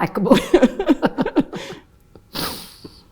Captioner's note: laughing